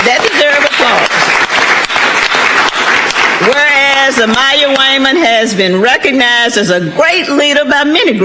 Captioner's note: applause